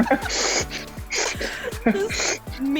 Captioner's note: laughs